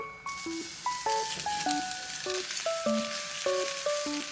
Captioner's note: the sizzling sound